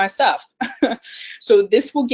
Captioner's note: laughs